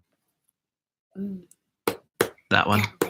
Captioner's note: pen tapping